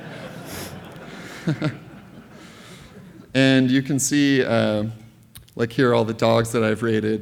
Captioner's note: laughter